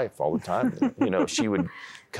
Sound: giggling

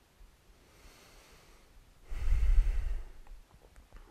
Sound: sighs

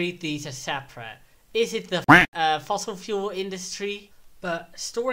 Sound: quack

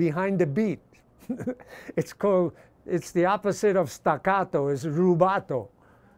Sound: laughs

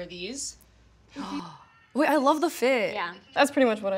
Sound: gasping

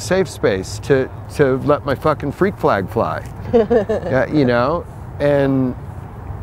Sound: laughs

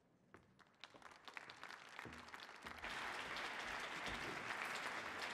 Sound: audience applauding

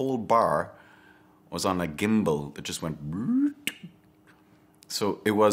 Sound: makes clicking noise

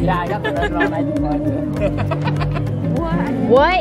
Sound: chuckles

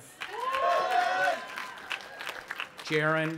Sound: audience applauding and cheering

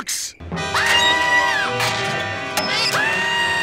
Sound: screaming

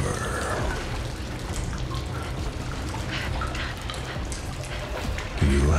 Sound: water droplets dribble

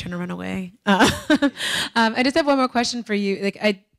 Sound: laughing

